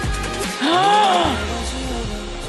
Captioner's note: gasp